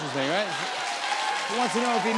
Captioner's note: cheers and applause